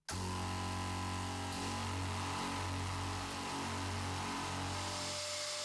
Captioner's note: I love it when the compressor starts